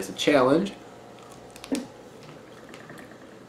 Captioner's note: fruit tearing